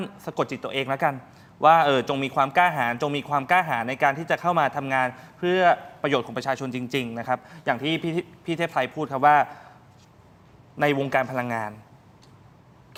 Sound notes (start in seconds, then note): none